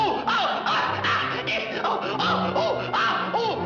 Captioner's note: growls